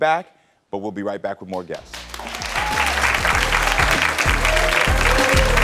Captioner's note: audience cheering